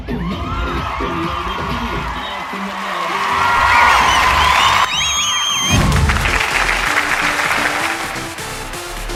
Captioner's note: applause